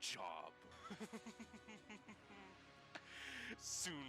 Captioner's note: laughs